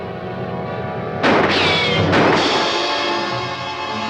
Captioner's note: gun firing